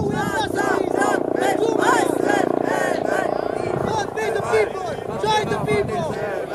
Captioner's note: helicopter flying